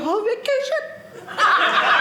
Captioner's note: audience laughing